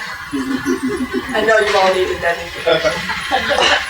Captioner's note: laugh